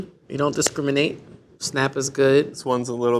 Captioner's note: chocolate snaps